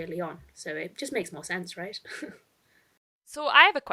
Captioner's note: chuckles